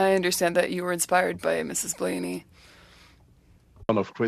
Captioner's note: speaking French